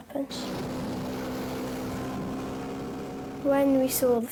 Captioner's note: boat buzzing